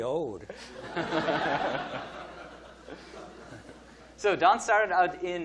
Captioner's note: audience laughing